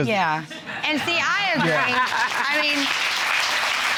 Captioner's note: applause